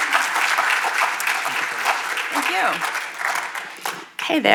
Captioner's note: audience applauding